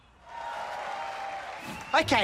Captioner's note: audience applauds